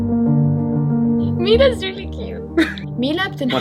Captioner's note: speaks in English